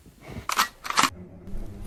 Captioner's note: gun reload